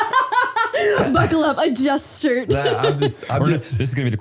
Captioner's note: laughing